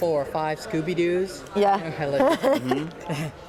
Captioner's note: laughs